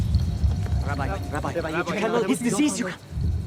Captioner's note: speaking foreign language